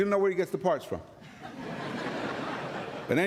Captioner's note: laughter